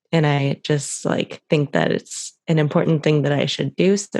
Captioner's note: none